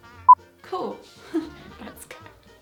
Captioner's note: sarcastically